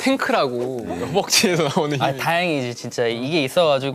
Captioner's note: haha